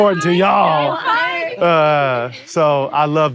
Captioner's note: laughter